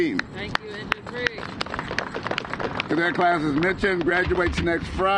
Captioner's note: applause